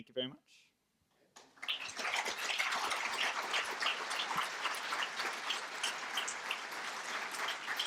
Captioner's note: applause